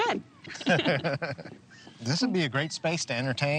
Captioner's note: both laugh